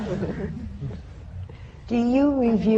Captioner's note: laughter